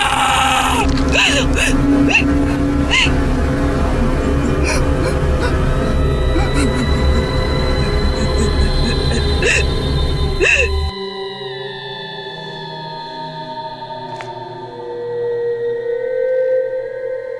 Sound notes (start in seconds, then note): 1.3 Sally sobbing